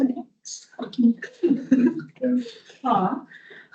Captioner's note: audience laughing